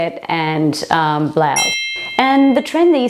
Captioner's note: beep